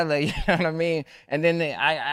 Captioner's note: laughs